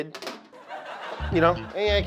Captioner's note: audience laugh track plays